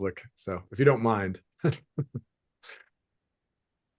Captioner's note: chuckles